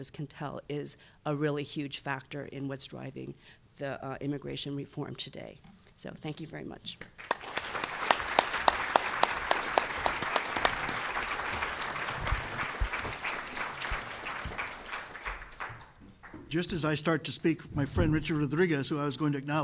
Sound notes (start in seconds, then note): 6.8 applause